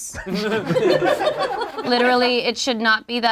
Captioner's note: group laughs